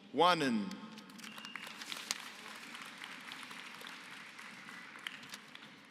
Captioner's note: applause